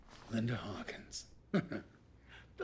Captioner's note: chuckles